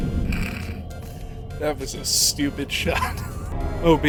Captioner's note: snort; wheeze